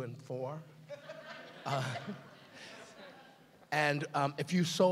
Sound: laughing

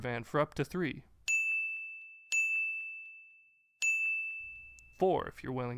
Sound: bells ringing

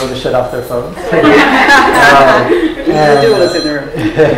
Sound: laughter

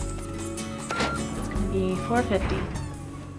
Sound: none

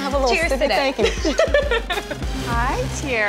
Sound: laughs

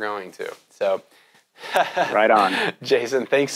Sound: laughs

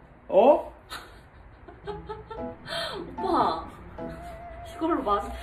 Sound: he's laughing at himself

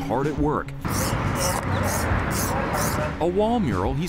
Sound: spray can hisses

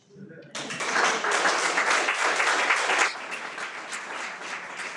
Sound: everyone applauds

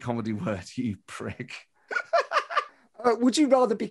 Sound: laughs

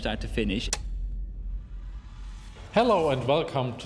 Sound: click

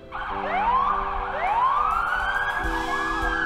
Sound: sirens wailing

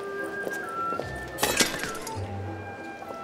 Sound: metal clangs

